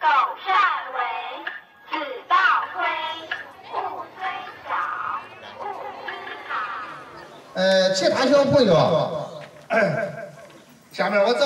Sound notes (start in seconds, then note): 7.5 speaking Chinese